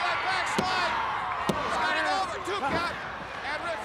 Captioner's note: countdown thudding